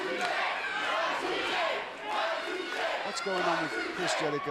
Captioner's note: crowd cheering